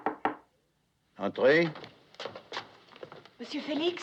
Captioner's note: knock On Door